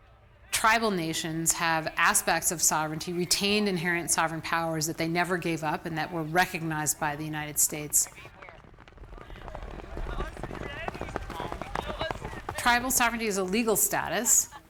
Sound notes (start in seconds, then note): 8.1 horse hooves pattering